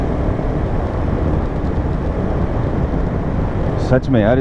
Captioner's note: wind noise and engine thrum